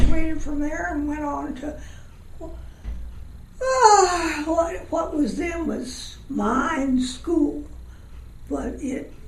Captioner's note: sighs